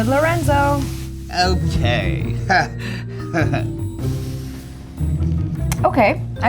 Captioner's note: chuckles